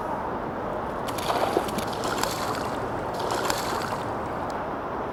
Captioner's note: splashing